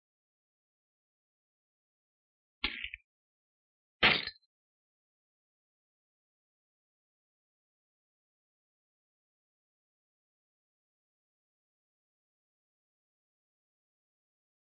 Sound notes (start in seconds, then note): 4.0 glass shatters